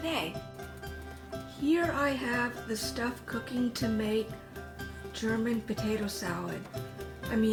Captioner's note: A pot of boiling water bubbles